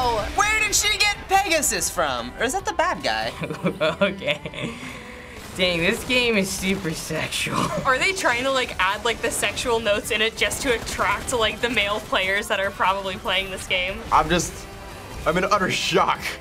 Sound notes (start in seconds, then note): 3.2 chuckling